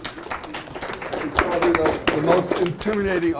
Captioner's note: audience clapping